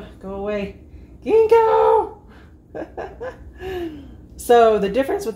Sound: laughter

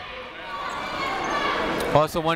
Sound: people shouting in the crowd

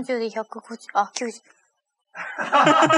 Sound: laughs

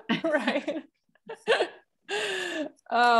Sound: laughter

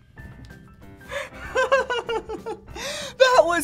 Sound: laughing

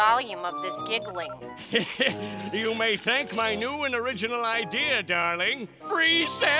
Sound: chuckles

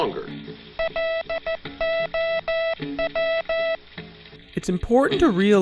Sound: letters being sent by morse code

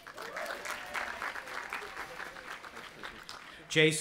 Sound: audience applauding

